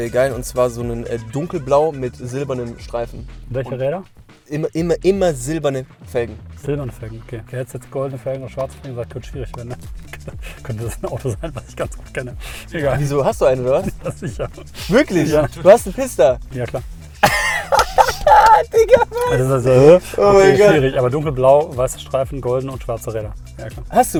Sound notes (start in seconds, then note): 17.2 laughing